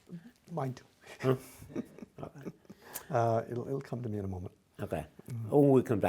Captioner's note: laughs